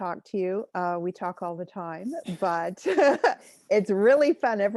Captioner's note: chuckles